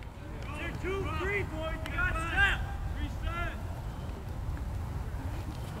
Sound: players talking and yelling

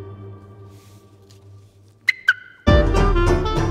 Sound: music stops; mimics car alarm engaging

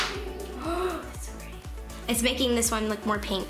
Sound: gasping

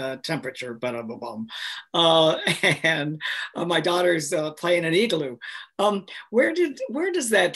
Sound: laughs

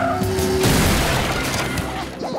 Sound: crashing

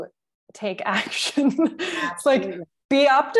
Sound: chuckle

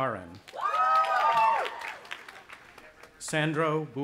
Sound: audience applauding and cheering

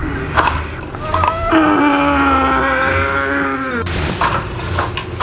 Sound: blinds opening; child groaning

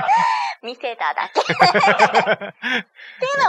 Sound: laughs

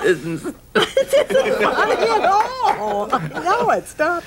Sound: audience laughing

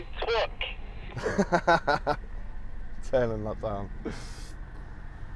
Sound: laugh

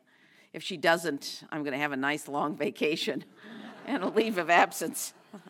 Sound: laugh

